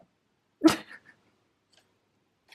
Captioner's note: laughs